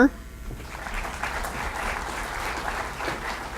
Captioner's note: applause